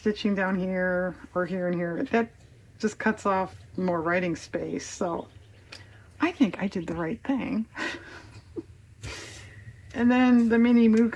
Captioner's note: laughs